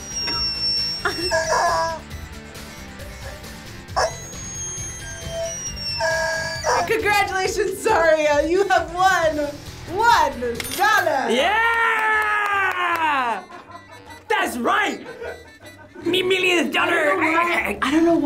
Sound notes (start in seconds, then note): 0.0 rubber chicken squeals; 1.0 chuckles; 3.9 rubber chicken squeals; 9.6 cash register ka-chings; 11.5 claps; 14.8 laughing